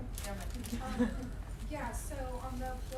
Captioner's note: chuckling